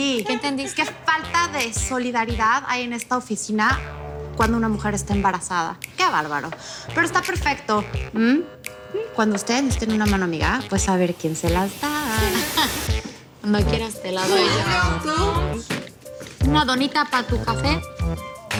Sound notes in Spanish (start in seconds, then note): 15.0 Hablan al unísono